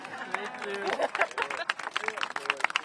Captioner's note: applause